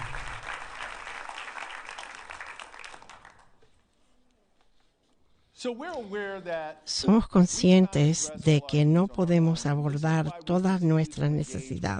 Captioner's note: applause